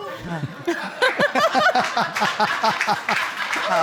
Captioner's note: all laughing